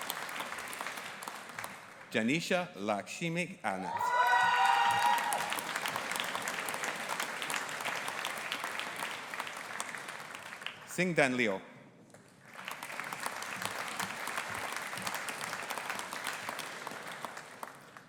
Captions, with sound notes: Jaanisha Lakshmikanth. (AUDIENCE APPLAUDING AND CHEERING) Xingdan Liu. (AUDIENCE APPLAUDING)